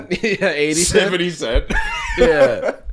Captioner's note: laughing